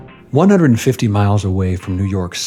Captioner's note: voice-over